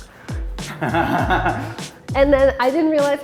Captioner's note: laughs